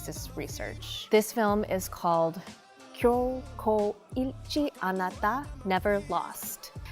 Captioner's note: speaking in Korean